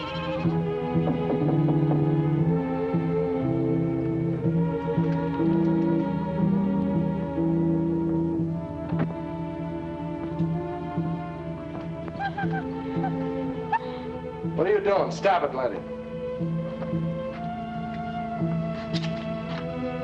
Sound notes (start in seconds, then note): 12.3 dog whimpering; 17.2 dramatic music